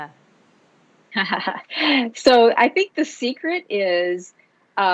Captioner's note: laughs